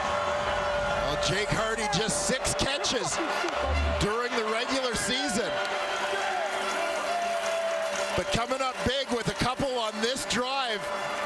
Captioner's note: crowd Noise